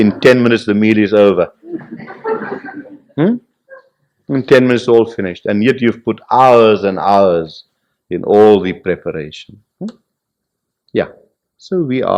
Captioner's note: laughter